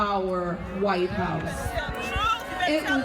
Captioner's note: crowd grumbling